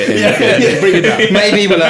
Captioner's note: laughing